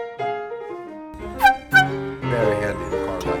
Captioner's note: horn honking